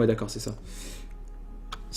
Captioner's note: inhale in a seductive way